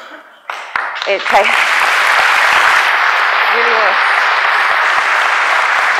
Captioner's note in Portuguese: Aplausos